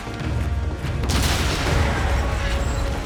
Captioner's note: metal scraping; boom